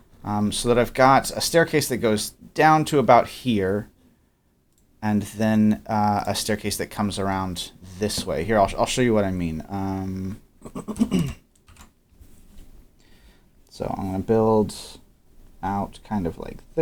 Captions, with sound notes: so that I've got a staircase that goes down to about here and then a staircase that comes around this way. Here, I'll show you what I mean (clears throat). So I'm gonna build out kind of like this